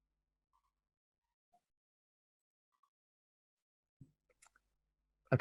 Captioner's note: silence